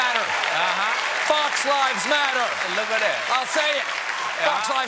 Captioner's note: cheers and applause